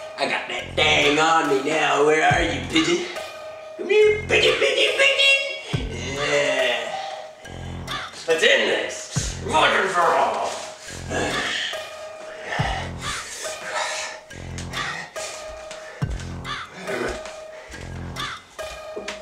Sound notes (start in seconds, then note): 11.6 exhales; 15.3 heavy breathing